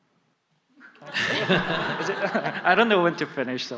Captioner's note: /Questioner/Audience Laughter